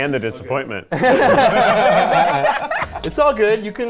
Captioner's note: people laughing; laughing